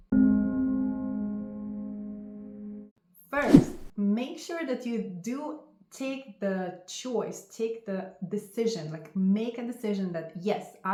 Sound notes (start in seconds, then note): 0.0 gentle music; 3.4 air whooshing